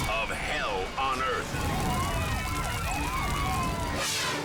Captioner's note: sirens screaming; fire roaring; scene swooshing